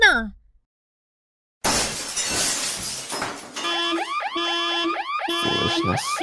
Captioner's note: glass breaking